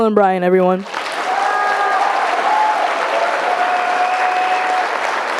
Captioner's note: audience applauding